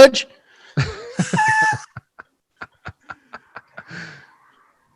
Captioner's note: hosts laughing